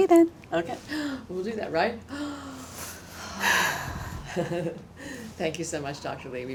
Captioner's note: inhales and exhales